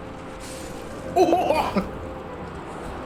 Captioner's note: monkey noises